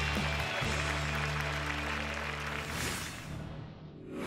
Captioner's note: applause